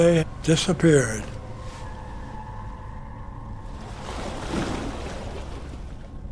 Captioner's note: waves crashing